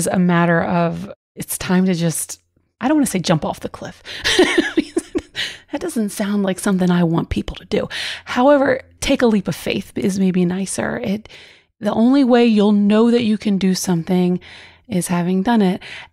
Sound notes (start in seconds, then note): 4.3 laughs